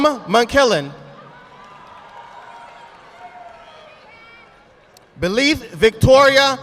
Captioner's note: audience applauding